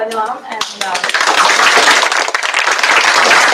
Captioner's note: applause